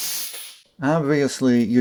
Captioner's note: hissing sound